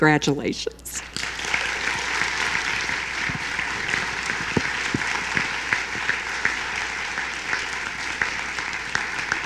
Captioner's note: applause